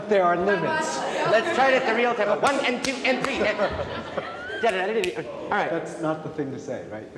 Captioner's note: clapping; snaps